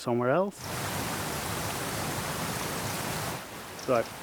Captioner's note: falls rushing